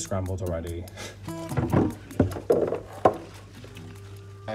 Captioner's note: shuffling